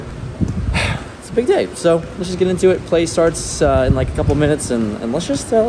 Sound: sigh

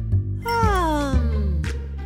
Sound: yawns

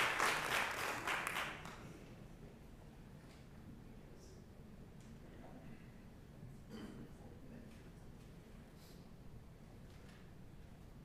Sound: applause

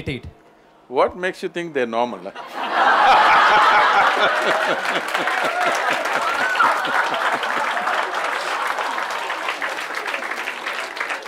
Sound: laughter/Applause/Cheers

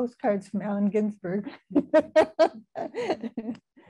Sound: laughing

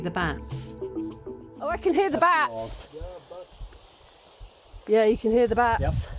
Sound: bats chattering

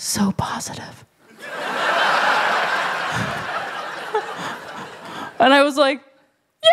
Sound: laughter

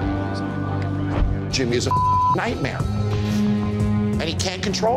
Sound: beep

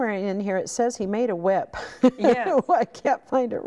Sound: laughing

